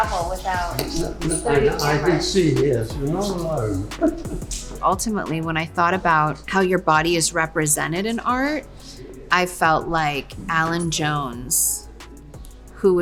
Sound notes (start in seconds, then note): 3.6 chuckles